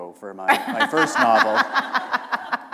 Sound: laughter

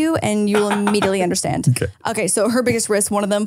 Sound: laughs

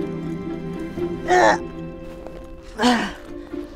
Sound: straining

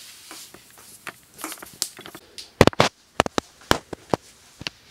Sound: footsteps

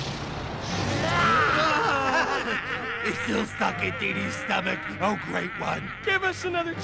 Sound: snarling

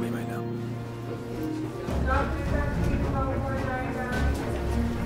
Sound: hospital announcements

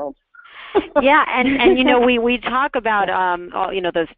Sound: voiceover

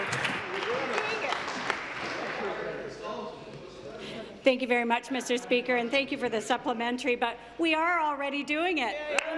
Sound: applause

